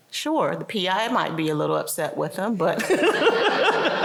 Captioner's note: laughter